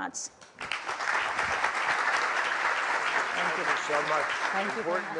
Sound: applause

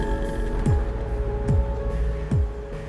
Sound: none

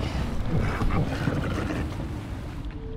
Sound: leopard seal snorts

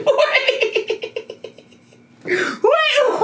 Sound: laughing

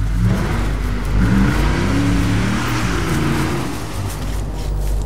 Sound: engine revving

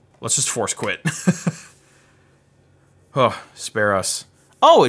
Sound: chuckles

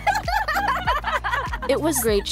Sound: laughs

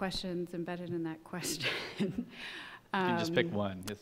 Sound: laughs

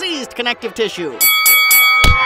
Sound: bell rings; punch SFX

